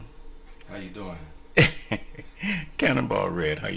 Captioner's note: laughs